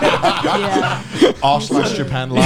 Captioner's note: laughs